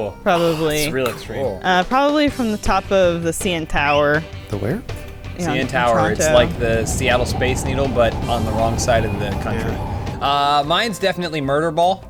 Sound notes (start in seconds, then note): 3.8 slip sound; 5.6 wind